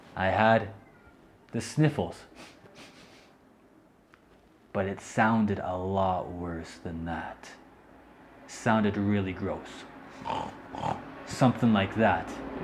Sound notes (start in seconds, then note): 2.3 sniffling; 10.0 groans